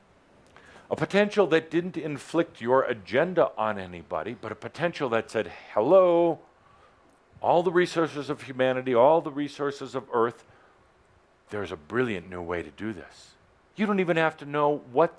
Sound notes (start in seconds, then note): none